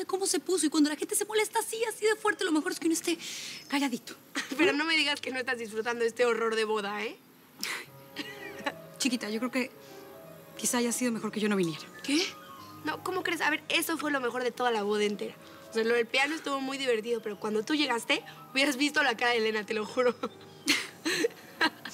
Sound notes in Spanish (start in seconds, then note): 8.2 risas